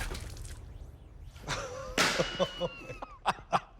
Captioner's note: laughter